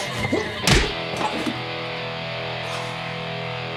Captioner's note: aggressive guitar music; fist thuds